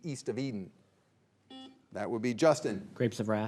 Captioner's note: signal beeps